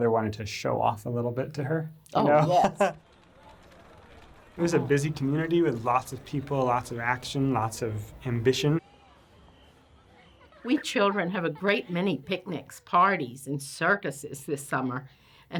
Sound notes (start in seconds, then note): 3.6 crowd noises